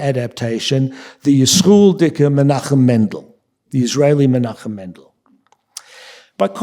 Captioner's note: speaking yiddish